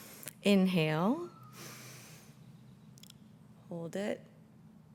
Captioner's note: inhales